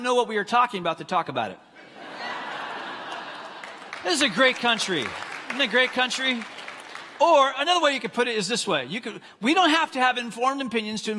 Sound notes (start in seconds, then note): 1.7 congregants laughing; 2.6 congregants clapping